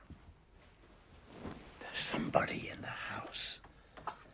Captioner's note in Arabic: همس